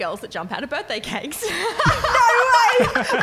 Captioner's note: laughing